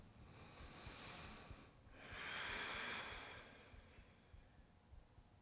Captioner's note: smooth deep breathing